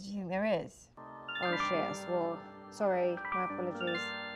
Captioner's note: notification sound